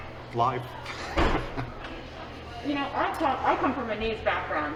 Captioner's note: laughing